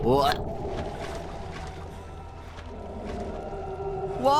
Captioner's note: splashing